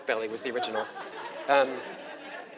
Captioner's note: laugh